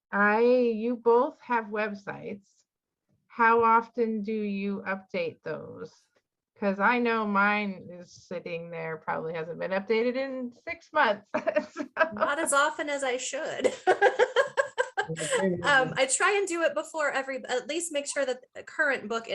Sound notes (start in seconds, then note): 13.5 laughing; 13.6 chuckling